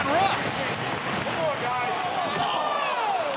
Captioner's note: audience cheering